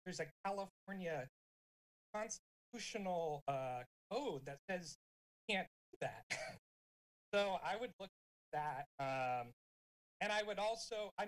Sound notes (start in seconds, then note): 6.5 chuckling